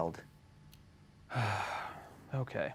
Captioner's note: sighs